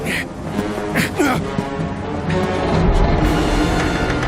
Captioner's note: men grunting